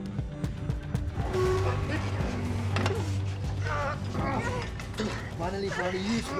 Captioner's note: grunting